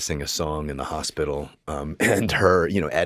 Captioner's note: chuckles